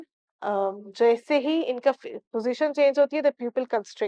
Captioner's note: in Urdu